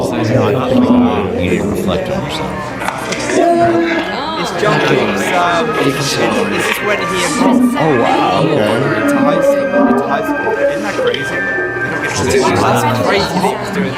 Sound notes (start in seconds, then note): 3.3 cheers; 11.9 giggles